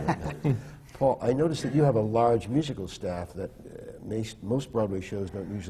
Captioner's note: laughter